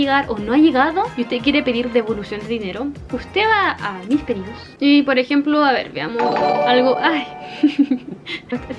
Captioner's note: Twitch alert sounds